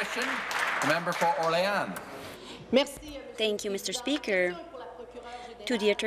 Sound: applause

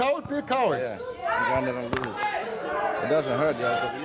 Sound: audience jeers

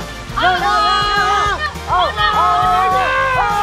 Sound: screams

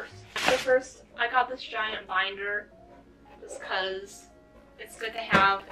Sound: slaps it like a watermelon

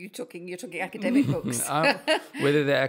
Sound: laugh

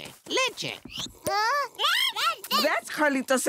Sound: whining

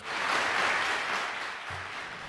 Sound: applause

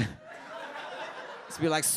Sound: audience laughs

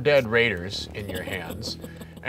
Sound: laughing

